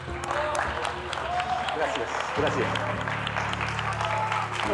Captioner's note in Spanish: aplausos